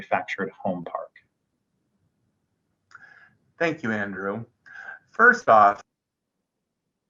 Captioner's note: silence